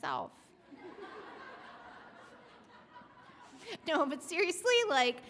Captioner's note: audience laughs